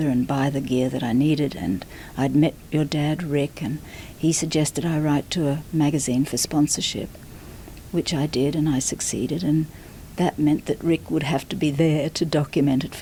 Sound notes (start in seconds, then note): none